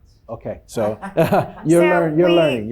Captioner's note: chuckling